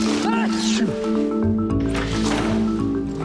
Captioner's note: sneezing; upbeat music